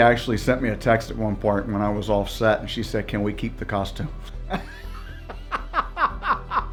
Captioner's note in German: Gelächter